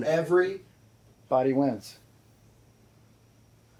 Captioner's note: none